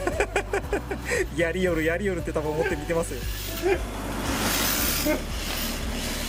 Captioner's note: laughs; laughs